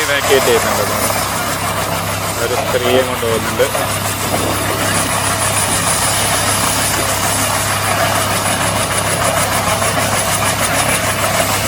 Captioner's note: helicopter whirring